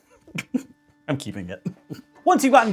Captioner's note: laughing